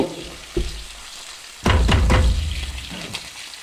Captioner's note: slam